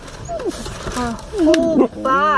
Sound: whining

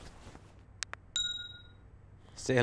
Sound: phone chimes

